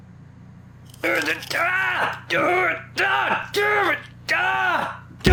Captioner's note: Charles yells in pain